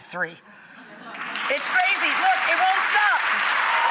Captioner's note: audience applauds